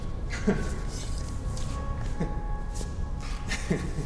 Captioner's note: laughing